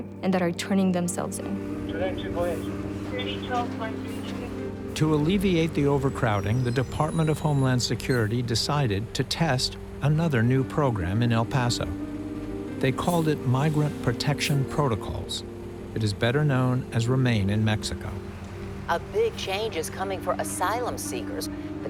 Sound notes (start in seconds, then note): 2.5 talking over radio